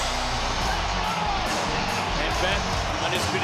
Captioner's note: audience cheers; upbeat music